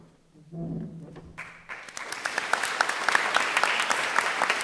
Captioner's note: applause